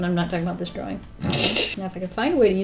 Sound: laughs

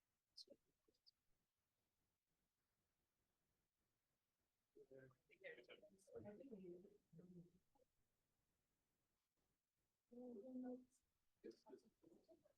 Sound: audio cuts out

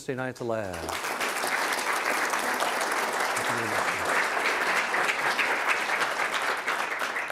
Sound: applause

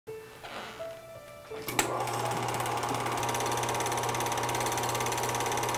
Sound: film projector running

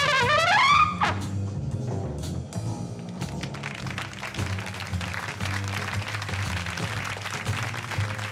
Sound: cheers and applause

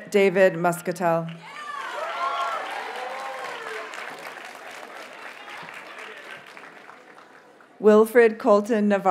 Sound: audience cheers and applauds

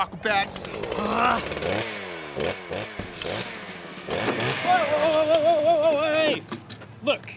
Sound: chainsaw noises

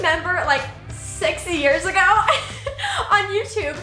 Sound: laughs

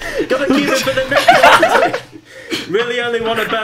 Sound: students laugh

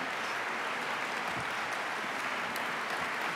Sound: applause

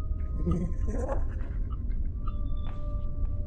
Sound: Granny laughs

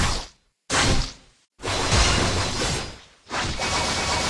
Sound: slashing sounds

